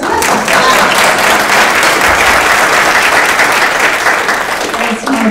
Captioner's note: audience applauding